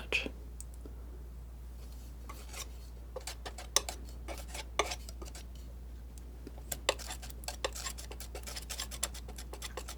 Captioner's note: scratching